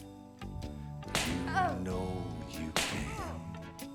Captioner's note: smack